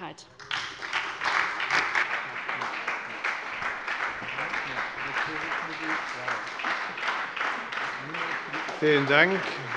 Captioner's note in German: Beifall bei der SPD